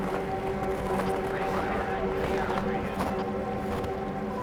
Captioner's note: emergency radio chatter; snow continues crunching beneath footsteps